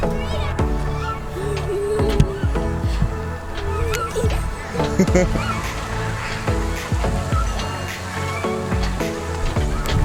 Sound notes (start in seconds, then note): 3.1 laughing; 4.8 upbeat music